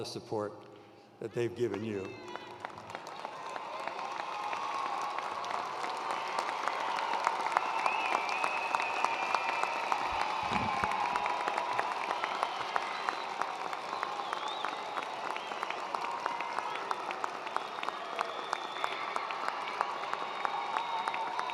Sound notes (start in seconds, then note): 3.3 attendees cheering and applauding